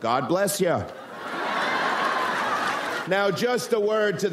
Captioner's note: audience laughs